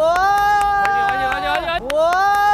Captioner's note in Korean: 소란